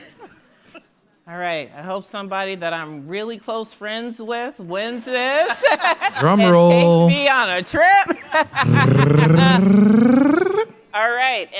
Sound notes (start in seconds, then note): 5.3 laughter